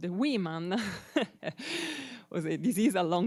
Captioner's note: chuckles